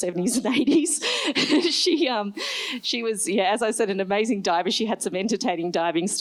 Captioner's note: laughs